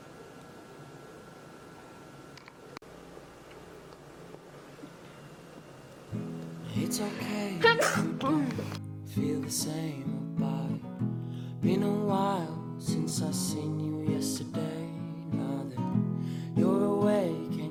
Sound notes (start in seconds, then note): 7.1 blooper sneeze